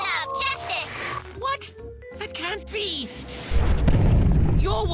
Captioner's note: robot crashes